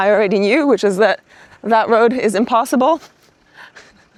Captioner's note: laughs jokingly